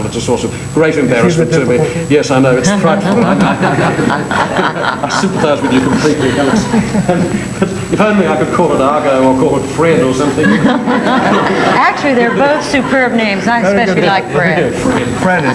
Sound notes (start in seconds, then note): 2.6 all laughing; 10.2 all laughing